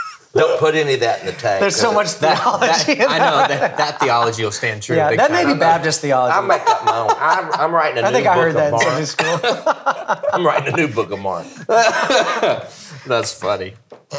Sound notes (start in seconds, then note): 6.4 laughing